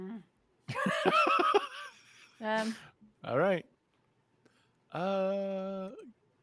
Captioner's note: laughs